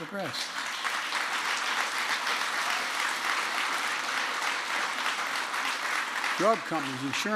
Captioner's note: applause